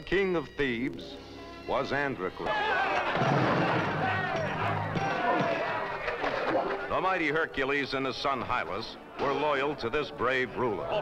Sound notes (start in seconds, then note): 2.4 men shouting